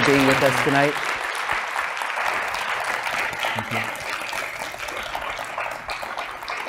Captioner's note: applause